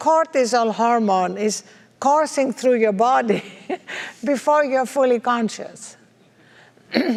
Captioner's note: laugh